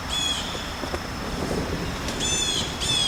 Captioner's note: bird Singing; distant Banging Noise